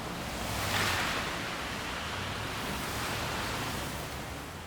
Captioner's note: vehicle engines rumbling